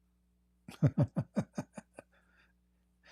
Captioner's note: Ketawa